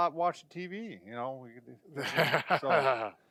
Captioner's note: laughing